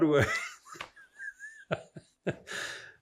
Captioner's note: laughing